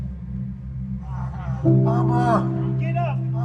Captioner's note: crying